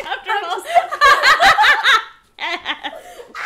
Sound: laughing; laughing

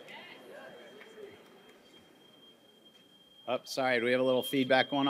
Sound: microphone feedback screeching

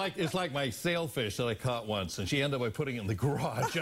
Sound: laughter

